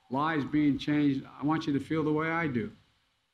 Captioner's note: none